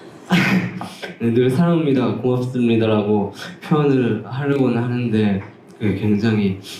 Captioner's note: struggles